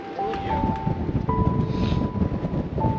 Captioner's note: sniffle